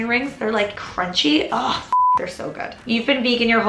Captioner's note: beep